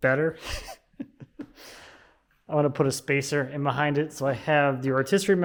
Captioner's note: chuckles